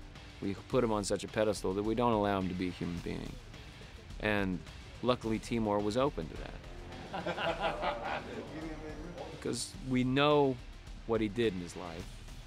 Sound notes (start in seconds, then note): 6.9 both laughing